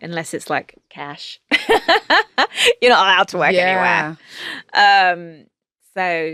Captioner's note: laughing